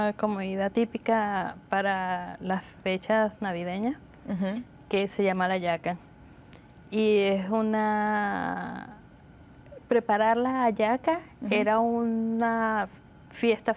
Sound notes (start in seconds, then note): 0.8 speaking Spanish